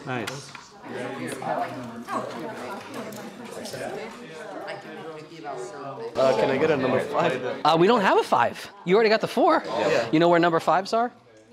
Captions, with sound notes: >> Nice. [chatter] >> Uh can I get a number five? >> We don't have a five. You already got the four? >> Yeah. >> You know where number fives are?